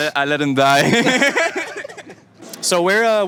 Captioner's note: laughs